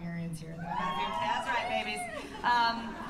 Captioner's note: cheers